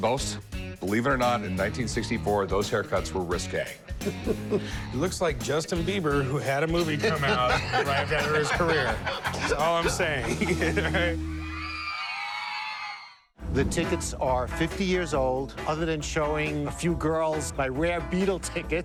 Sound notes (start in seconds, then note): 6.7 laughter; 11.2 screaming